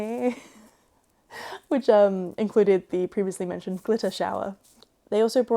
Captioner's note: laughs